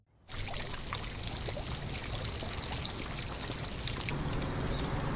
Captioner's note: water fountain sprinkling